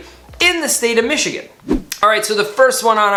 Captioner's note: swoosh